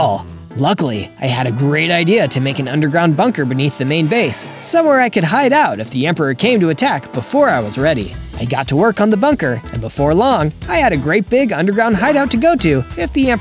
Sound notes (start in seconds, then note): none